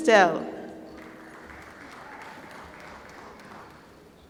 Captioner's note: applause